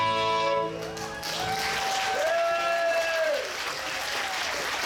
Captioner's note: audience cheers